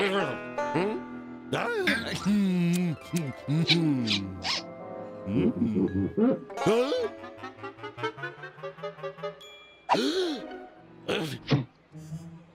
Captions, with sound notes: HMM? DUH! MMM! MM! MM-HMM! (pumpkin squeaks) HUH? (gasps)